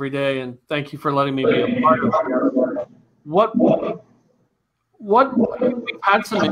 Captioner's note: audio distorted